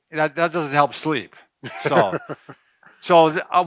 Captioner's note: laughing